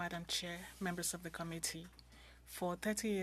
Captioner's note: speaking French